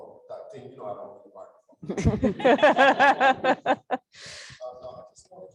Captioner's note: laugh